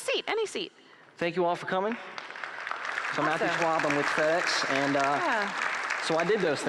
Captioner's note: applause